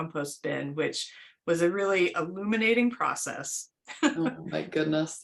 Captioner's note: laughter